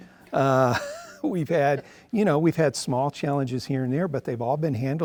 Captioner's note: laughs